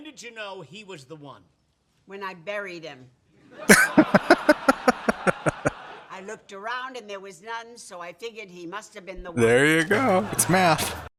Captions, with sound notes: [Laughing] There you go. It's math.